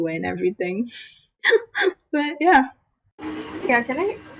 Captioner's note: laughs